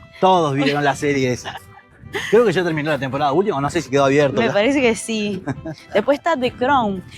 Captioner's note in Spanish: risas